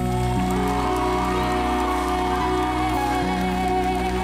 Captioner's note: audience cheering